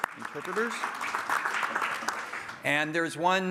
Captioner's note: applause